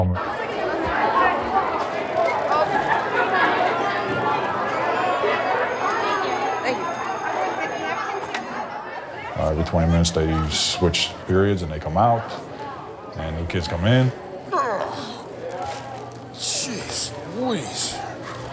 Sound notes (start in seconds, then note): 0.2 students chatting; 4.8 school bell rings; 14.5 groaning